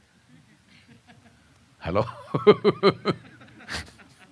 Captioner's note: laughs